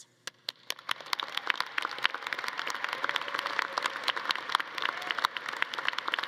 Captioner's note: all clapping; audience cheering